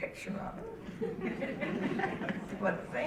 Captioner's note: audience laughing